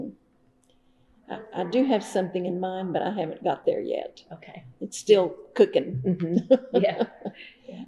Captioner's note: laughs